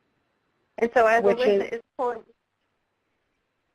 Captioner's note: voiceover